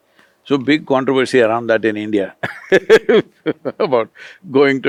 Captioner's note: laughs